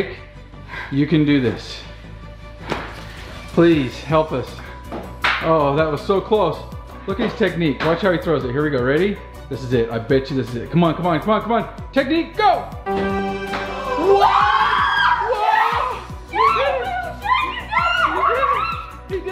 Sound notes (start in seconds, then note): 2.0 dramatic music; 12.7 victory music; 14.0 screaming